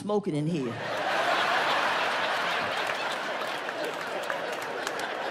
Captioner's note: audience laughs